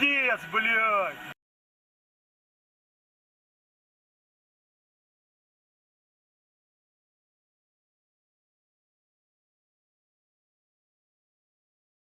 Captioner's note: more silence while someone emerges from the car